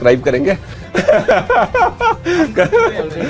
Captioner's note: everyone laughing